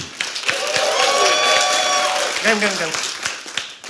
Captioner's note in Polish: oklaski publiczności